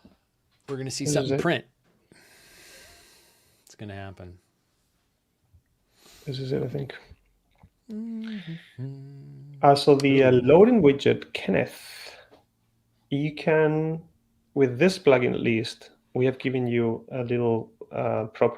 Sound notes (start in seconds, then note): 7.8 hums